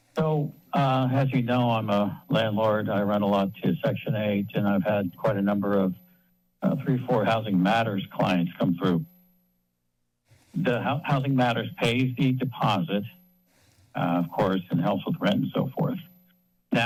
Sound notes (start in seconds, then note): 10.5 pause